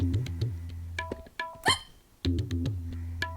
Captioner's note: hiccup